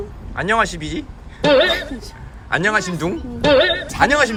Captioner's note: speaking North Korean dialect which doesn't make sense